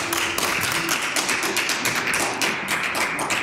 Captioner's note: applause